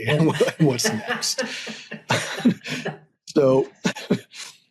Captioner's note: laughs